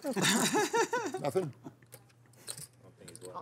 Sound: laughing

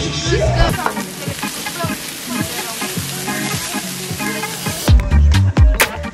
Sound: frying

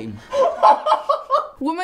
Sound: laughs

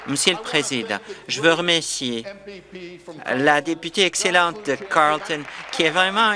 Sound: applause

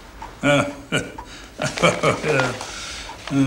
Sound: chuckles

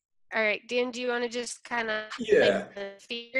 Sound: speaking faintly

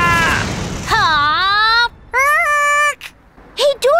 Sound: imitates screeching brakes

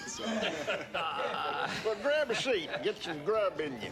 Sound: laughter

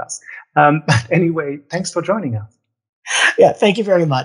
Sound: laughs

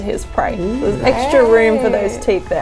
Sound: murmurs

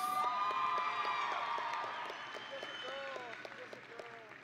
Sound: audience and graduates cheering

